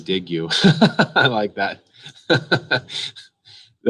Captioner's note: laughs